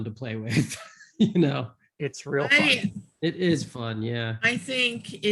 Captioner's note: laughs